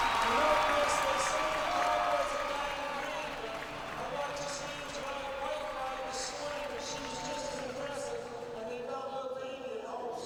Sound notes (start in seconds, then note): 3.9 speaking indistinctly over loudspeaker